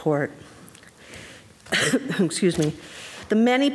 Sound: woman coughing

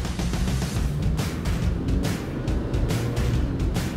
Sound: engine accelerating

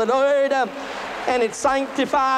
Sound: applause

